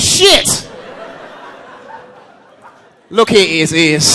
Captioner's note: audience laughing